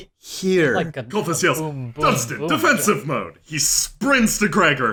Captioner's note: Colfus yells